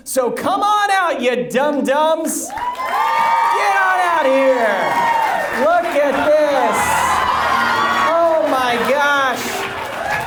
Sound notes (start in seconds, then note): 2.9 audience cheers; 7.0 audience laughs